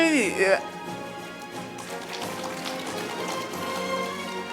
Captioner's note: audience applauding